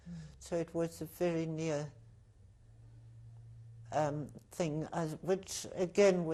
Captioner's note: pauses for 3 seconds